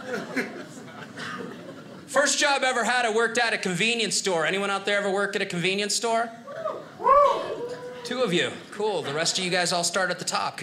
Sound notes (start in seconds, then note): 6.9 audience cheers